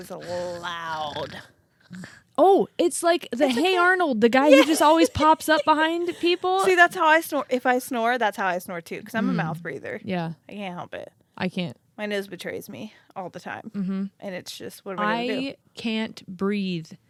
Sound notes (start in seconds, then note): 0.1 imitates light snore; 4.4 laughs